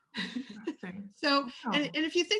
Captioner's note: laughs